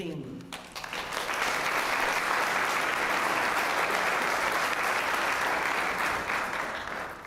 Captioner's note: applause